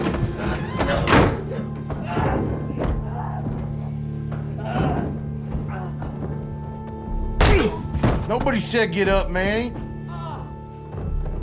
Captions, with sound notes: [FAINT GRUNTING] [GRUNTS] Nobody said get up, Manny.